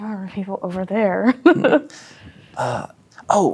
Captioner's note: chuckles